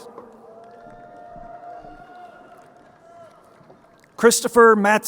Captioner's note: crowd cheering